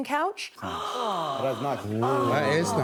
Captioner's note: all gasp